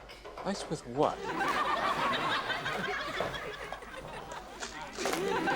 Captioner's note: audience laughs